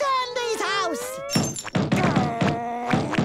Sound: knocking

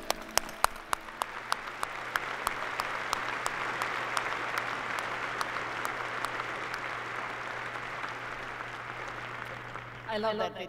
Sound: applause

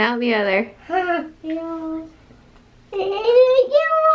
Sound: laughing

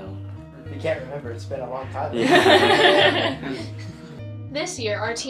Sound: laughs

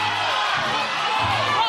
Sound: audience yelling suggestions

